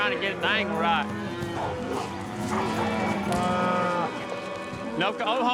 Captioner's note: mooing